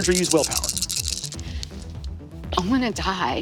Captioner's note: dice rattling